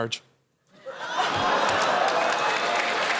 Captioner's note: audience groans; cheers and applause